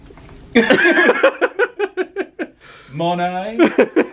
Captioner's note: both laugh